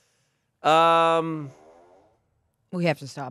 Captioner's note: fart machine farts